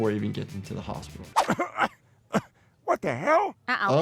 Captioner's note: Peter coughs